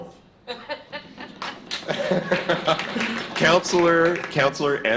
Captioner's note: laughter